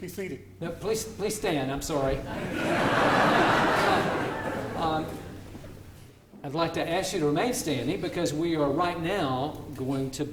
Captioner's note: laughter